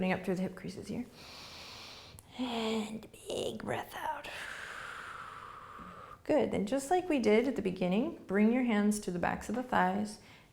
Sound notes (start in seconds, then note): 4.4 exhaling